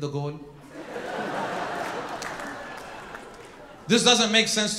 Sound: audience laughing

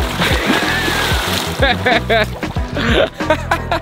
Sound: laughs

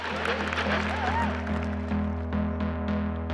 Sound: crowd cheering

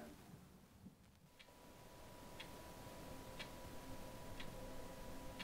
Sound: clock ticking

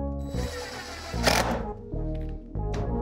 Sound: whirring

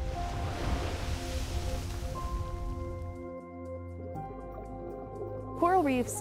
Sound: waves

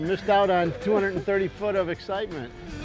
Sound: laughter

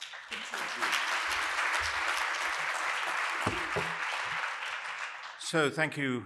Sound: applause

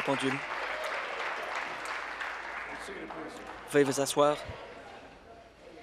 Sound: applause

